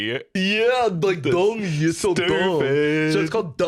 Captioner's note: mocking